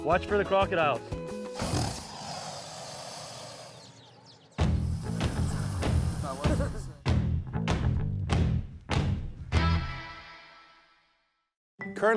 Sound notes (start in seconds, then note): 1.4 crocodile hissing; 6.4 laughing